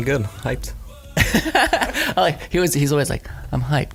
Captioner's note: laughs